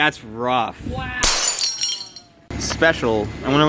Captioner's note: glass shatters